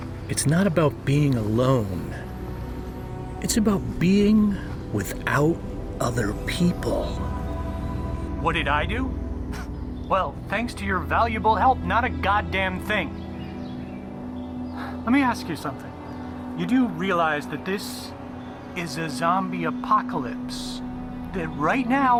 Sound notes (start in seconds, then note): 9.0 sarcastic chuckle; 12.4 exasperated; 13.0 sighs